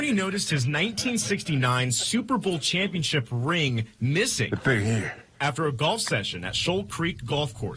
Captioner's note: laughs